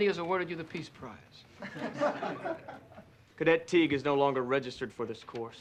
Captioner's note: laughter